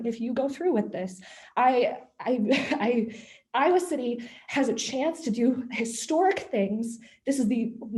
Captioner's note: laughter